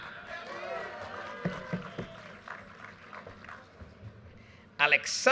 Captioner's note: audience cheers and applause